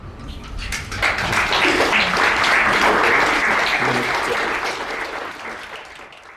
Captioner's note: crowd applauding